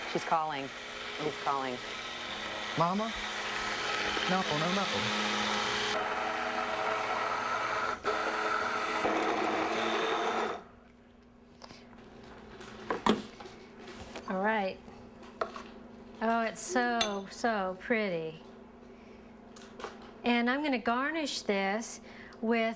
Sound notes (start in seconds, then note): 5.9 blender whirring